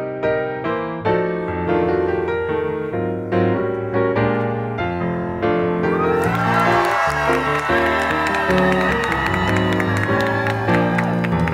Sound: applause

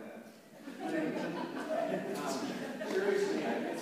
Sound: laughter

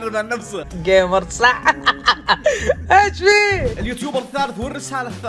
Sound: laugh

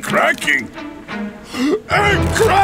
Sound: gasping

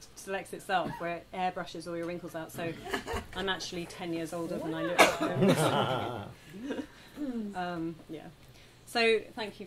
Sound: laughter

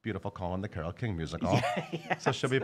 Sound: laughing

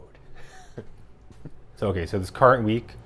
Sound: chuckles

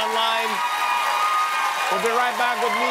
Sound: cheers and applause

